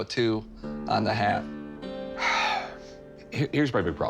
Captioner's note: sighs